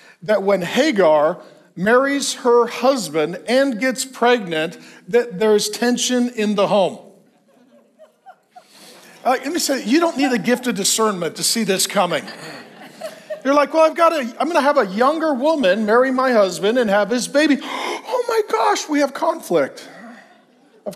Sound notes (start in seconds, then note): 7.2 congregation laughs